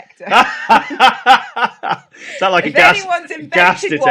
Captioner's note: laughs